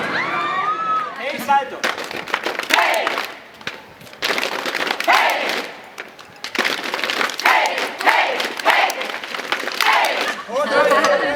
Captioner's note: clap